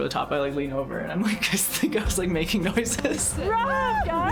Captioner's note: laughing